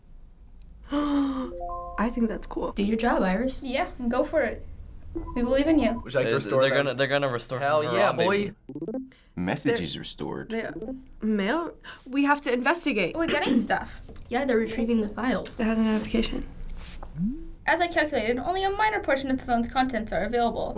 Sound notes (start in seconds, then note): 0.4 gasps; 7.9 message blips